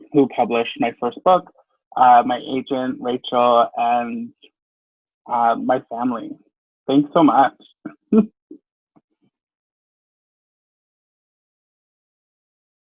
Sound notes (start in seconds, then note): 7.9 chuckles